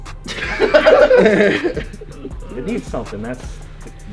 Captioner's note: laughs